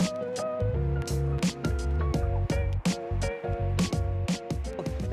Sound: plane engine roaring

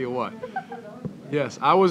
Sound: laughter

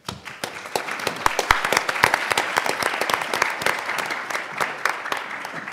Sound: panel and audience applauds

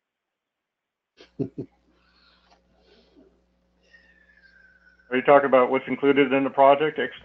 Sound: laugh

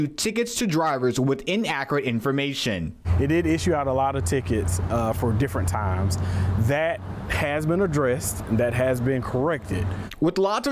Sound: nats of cars driving

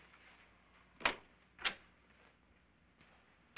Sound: door opens

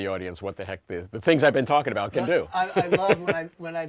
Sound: laughter

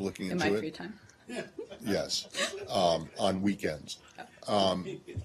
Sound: laughter

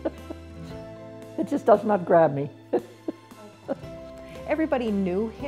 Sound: laughs; laughs

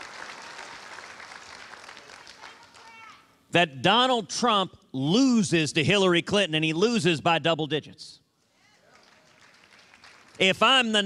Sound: applause

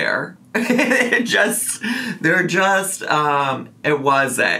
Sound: laughs

